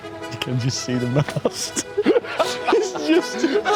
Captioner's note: both laugh